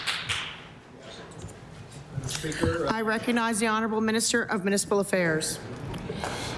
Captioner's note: some Applause